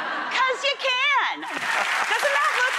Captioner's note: crowd applauding